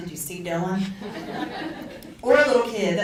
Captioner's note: audience laughs